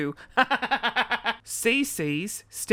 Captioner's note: laughter